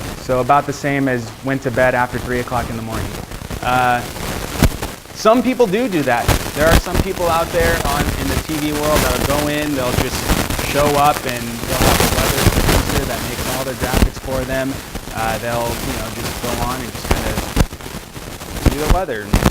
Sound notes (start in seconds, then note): 13.1 static